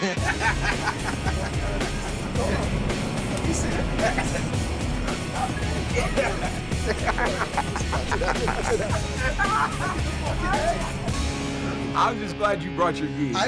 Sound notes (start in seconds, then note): 3.0 both grunting; 3.0 both laughing